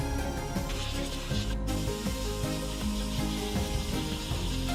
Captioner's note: spray paint hissing